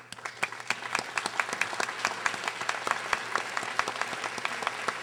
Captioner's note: audience applauding